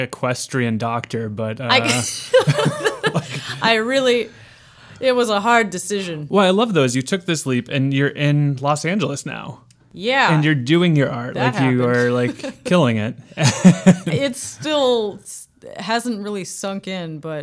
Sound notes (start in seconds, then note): 2.3 laughing